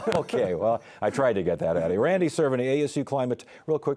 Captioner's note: laughter